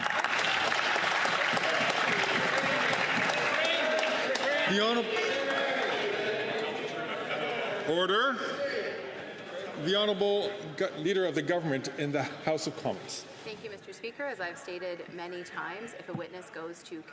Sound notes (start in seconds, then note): 6.0 some Applause